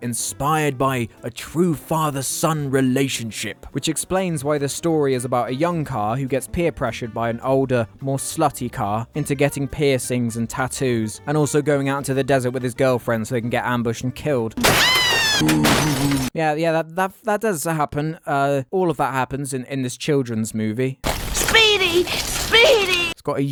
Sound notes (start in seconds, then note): 14.6 screaming